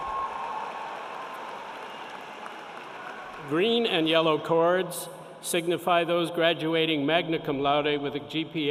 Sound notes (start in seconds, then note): 0.0 cheering